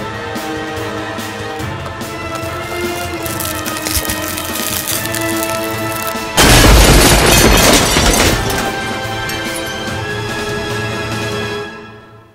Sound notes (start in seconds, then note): 2.3 mirror cracking; 6.2 mirror shattering; 9.4 dramatic music